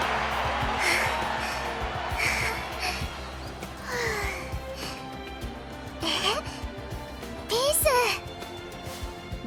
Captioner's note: huff; sigh